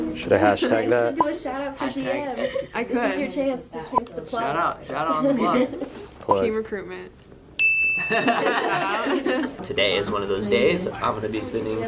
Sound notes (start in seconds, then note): 7.6 bell ring; 8.0 laughter